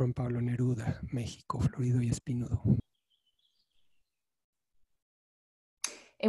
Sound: speaking in foreign language

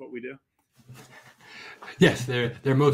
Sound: laughs

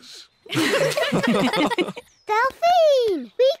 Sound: all giggle

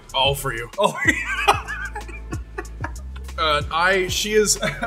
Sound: laughs

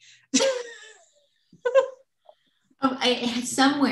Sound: laughter

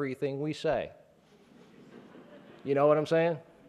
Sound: laughing

